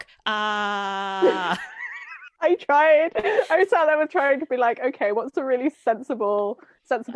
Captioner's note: laughs